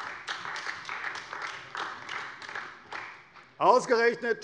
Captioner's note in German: Beifall bei der CDU